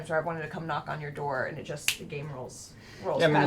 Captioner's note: snaps